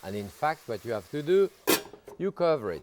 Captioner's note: lid clangs